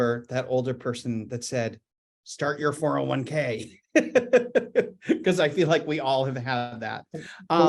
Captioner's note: chuckles